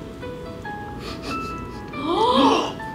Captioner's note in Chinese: 嗅嗅嗅